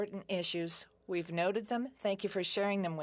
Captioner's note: speaking French